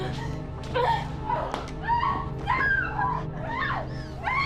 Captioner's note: sounds of scuffle; Sarah screams